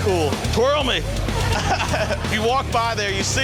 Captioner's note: chuckles